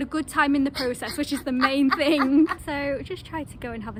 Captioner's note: laughter